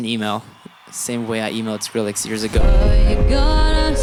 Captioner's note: cheering